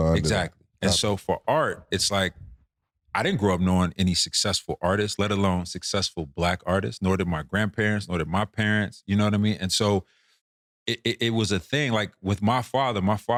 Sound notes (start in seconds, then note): none